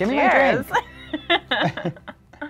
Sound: both laughing

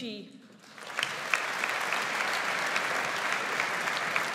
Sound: audience applauds

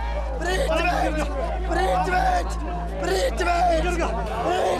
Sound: shouts in foreign language

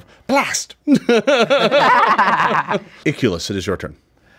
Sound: all laughing

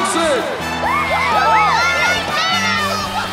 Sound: cheering

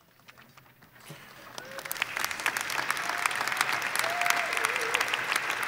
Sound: audience applauding

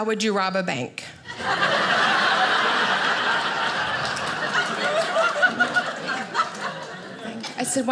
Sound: audience laughing

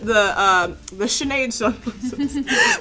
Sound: both laughing

